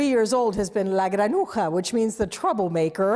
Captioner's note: speaking in foreign language